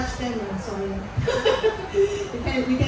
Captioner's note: laughs